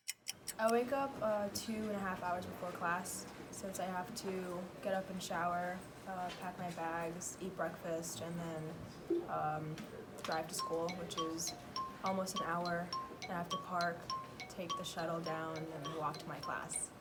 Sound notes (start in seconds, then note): 0.0 clock ticking; 9.8 time passing sound